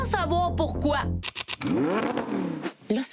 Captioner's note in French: vrombissement de moteur